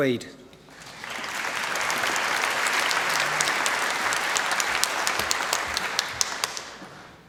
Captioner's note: applause